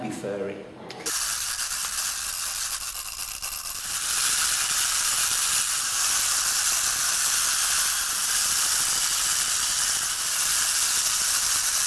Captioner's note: mechanical whirr of robots